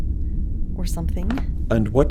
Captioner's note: mutters